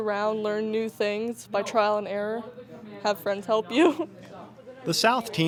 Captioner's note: laughs